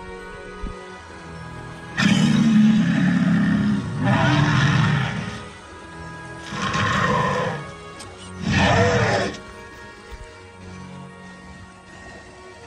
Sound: spinosaurus growls

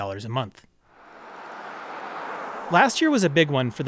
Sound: car whooshing

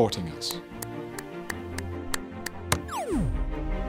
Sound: hands clapping

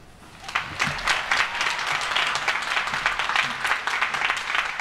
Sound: applause

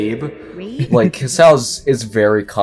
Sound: giggles

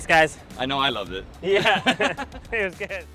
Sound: both laugh

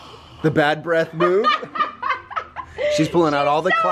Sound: laughing

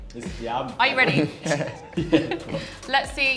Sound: chuckle

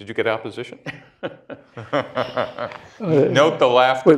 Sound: laughter

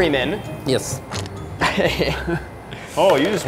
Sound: laughing

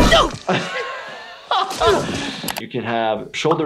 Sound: laughing

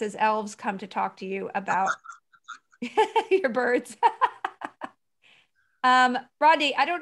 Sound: she laughs

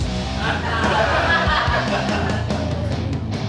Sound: audience laughing; upbeat rock music

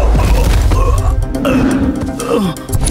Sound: groans

